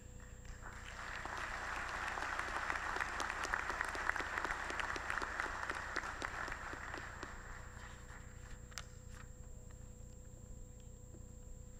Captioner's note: applause